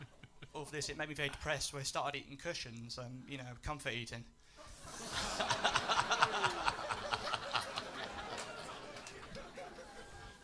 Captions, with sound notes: After this, it made me feel depressed where I started eating cushions-- you know, comfort eating. [LAUGHTER]